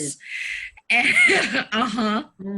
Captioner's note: laughing